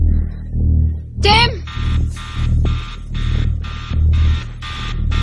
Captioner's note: timer buzzing